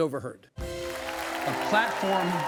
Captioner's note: uplifting music; audience applauds